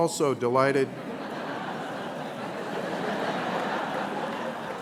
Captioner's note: laughter